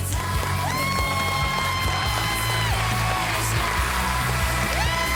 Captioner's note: crowd cheering